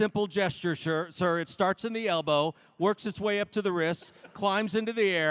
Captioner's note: laughter